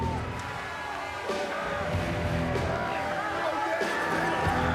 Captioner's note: crowd chattering